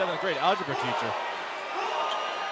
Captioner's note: crowd chatter